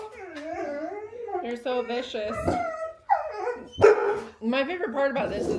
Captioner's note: desperate whines and yips